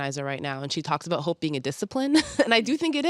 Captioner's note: chuckles